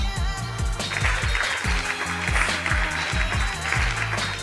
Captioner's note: clapping